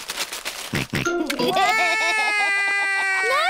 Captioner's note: music stops; george laughs; cries